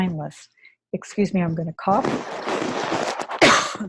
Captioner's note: cough